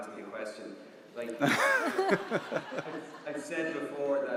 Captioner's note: audience laughs